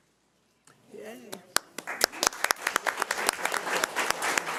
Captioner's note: crowd applauding